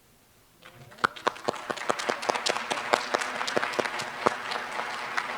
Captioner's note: applause